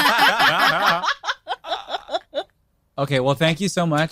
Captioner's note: group laughing